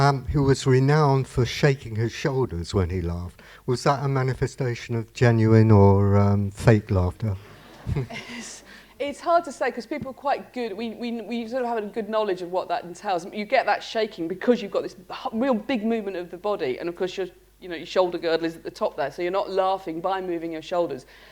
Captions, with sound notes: and who is renowned for shaking his shoulders when he laughed. Was that a manifestation of genuine or fake laughter [laughter]? >> It's hard to say because people are quite good -- we still haven't a good knowledge of what that entails. You get that shaking because you've got this real big movement of the body, and, of course, your -- you know, your shoulder girth is atop there, so you're not laughing by moving your shoulders,